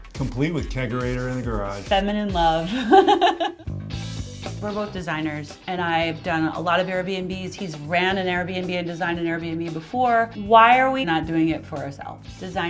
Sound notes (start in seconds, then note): 2.6 laughs